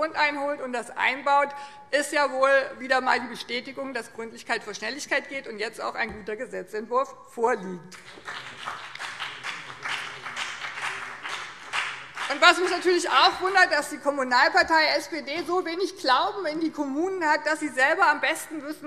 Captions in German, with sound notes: benötigt und das einbaut, ist wohl wieder einmal die Bestätigung, dass Gründlichkeit vor Schnelligkeit geht und jetzt auch ein guter Gesetzentwurf vorliegt. [Beifall BÜNDNIS 90/DIE GRÜNEN und vereinzelt CDU] Mich wundert natürlich auch, dass die Kommunalpartei SPD so wenig Glauben in die Kommunen hat, dass sie selbst am besten weiß,